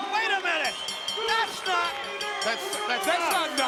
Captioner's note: bell ringing